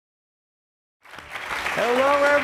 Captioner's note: audience applauds